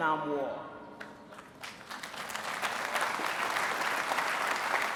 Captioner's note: applause